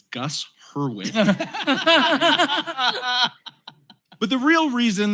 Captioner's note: laughter